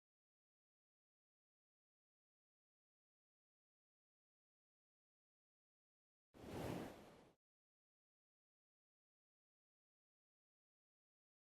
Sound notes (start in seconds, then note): 0.2 no audio